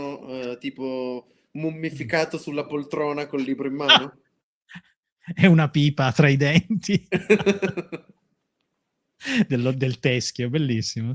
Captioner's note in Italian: risate